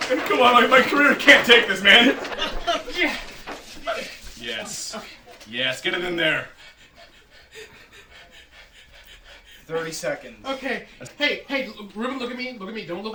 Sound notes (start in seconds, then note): 2.6 laughter; 7.5 hyperventilating